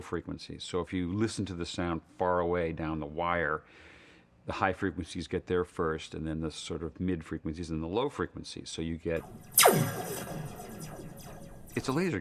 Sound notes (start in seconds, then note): 9.2 sound of laser gun firing